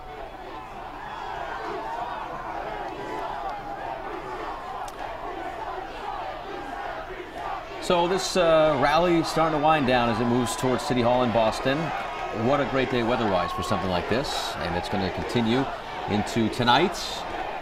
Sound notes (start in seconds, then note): 2.7 cheering